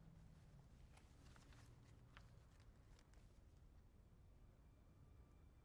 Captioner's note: none